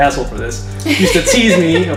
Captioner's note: laughter